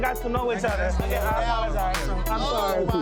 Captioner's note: people speaking indistinct